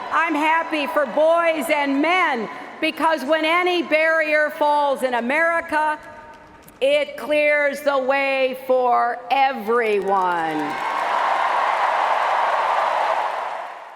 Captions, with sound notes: I'm happy for boys and men, because when any barrier falls in America, it clears the way for everyone. [CHEERING]